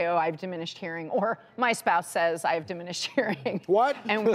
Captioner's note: laughs